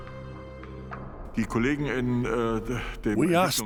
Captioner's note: speaking German